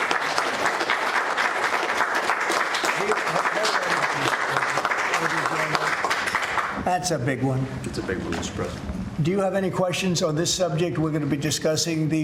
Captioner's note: applause